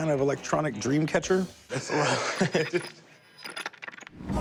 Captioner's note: both laughing